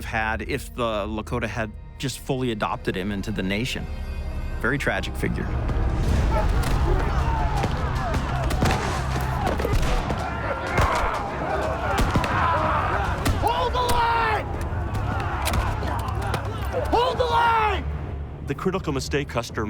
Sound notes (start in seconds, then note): 5.8 indistinct shouting; 9.5 indistinct shouting